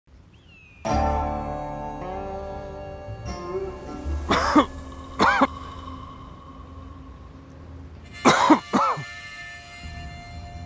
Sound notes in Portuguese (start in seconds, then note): 5.0 tosse; 8.1 tosse